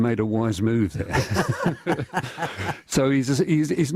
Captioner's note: laughter